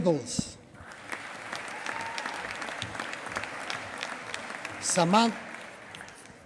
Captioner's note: applause